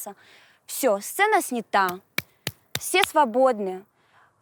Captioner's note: claps